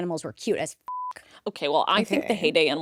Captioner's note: beep